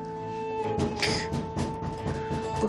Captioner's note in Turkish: Kapı sesi